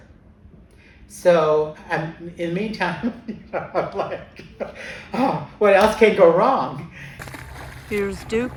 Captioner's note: laughs